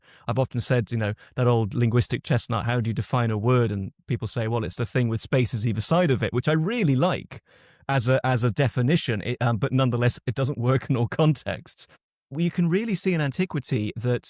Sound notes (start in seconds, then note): none